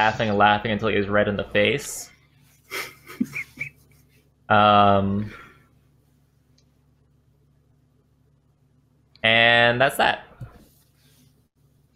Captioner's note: laughter